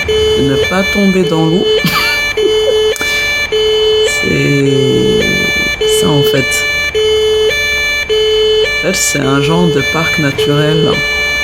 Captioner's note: laughter